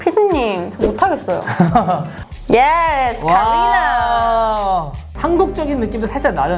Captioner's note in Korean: 웃음